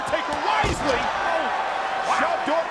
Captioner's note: body crashes